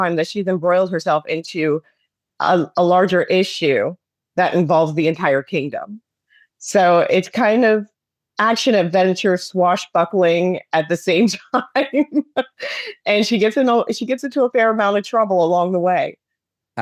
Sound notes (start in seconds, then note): 13.0 laughs